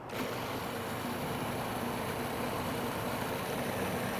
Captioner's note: blender whirring